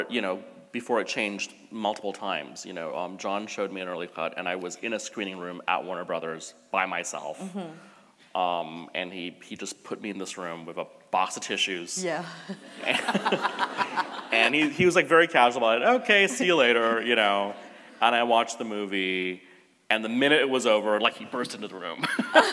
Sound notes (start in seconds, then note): 12.6 laughs; 22.1 laughs